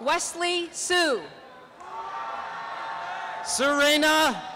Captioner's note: applause and cheering